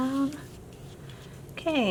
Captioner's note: brushing